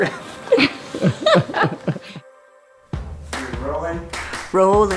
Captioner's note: laughs